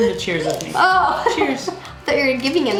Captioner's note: laughing